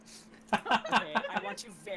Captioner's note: laughing